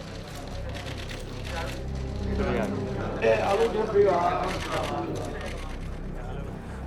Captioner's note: sounds of photos being taken and talking in Burmese